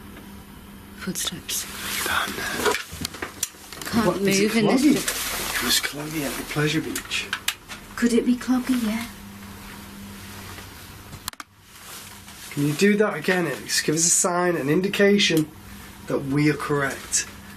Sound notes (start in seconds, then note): none